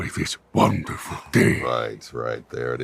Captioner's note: imitating proximus